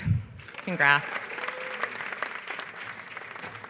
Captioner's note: applause